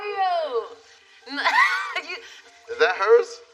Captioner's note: laughs